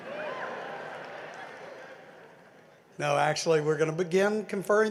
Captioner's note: laughter